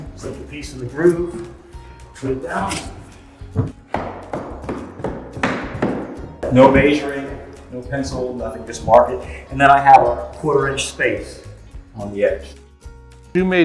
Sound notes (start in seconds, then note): 3.4 hammer banging